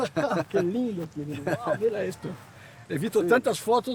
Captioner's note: both laughing